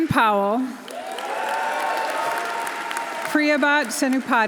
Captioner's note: audience applauding; audience cheering